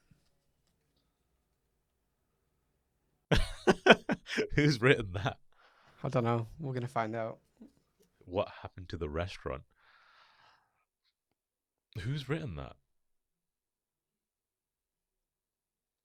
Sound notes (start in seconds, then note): 3.4 laughs